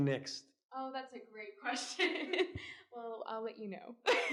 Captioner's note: giggles; giggles